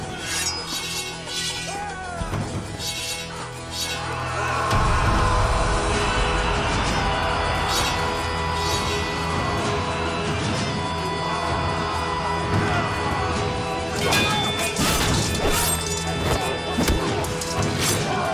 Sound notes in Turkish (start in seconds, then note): 0.1 Kılıç sesi; 4.6 Bağırma sesleri; 14.1 Çarpışma sesleri